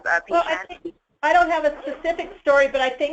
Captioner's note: voiceover